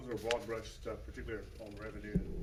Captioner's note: drowned out by rustling